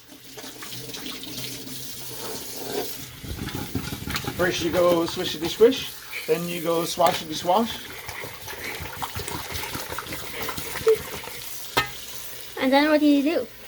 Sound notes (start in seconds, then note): 0.1 water sounds; 7.9 water sounds; 10.0 laughing; 11.7 pot going on sink